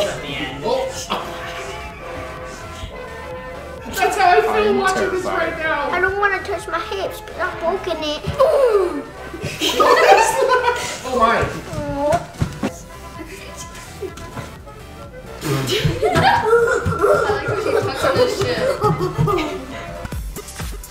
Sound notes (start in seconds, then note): 15.3 laughing